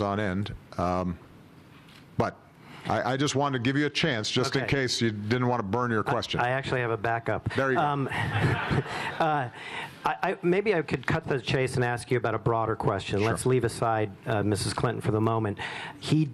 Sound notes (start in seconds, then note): 7.9 laughter